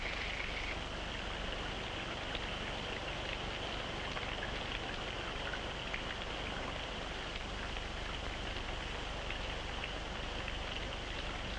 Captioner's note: sounds of water running